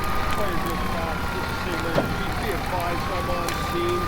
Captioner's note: fire engine siren blaring; fire raging; gentle music